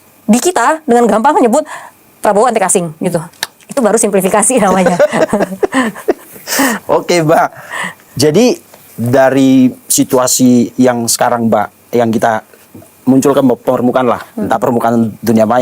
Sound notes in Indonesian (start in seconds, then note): 4.6 tertawa